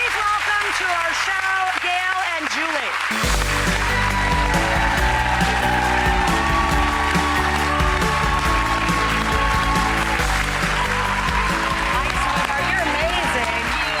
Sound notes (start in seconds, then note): 0.0 applause; 4.8 crowd cheering